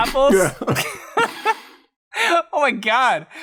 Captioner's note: laughter